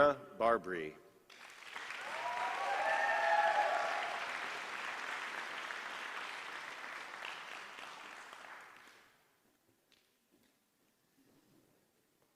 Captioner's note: applause